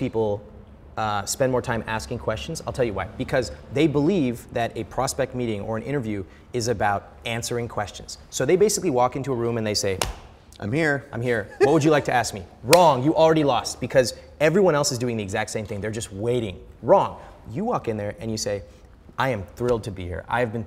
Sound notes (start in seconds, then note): 10.0 smacking; 12.6 hands slapping